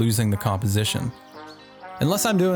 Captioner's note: birds chirping